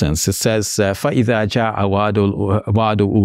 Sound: speaks in Arabic

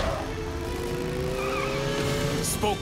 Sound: tires screech

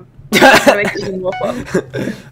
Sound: laughs in pain

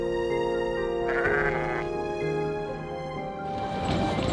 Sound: sheep baas

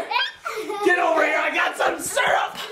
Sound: children laughing

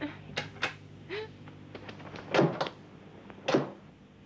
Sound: door clatters

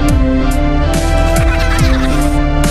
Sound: Minions Laughing

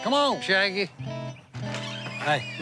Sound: door opens

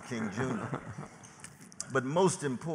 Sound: laughter

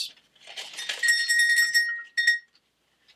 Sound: bell ringing

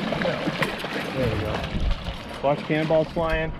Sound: fish splashing

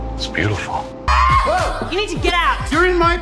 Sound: screams

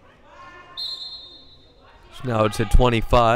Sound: whistle blowing

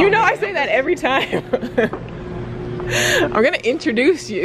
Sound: laughs

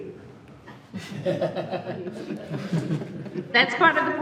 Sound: trustees laugh

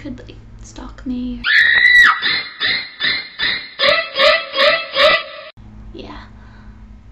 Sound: woman screaming

